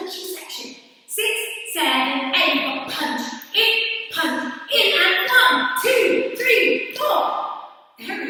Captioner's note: counting 6 7 8